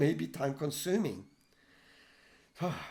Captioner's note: sigh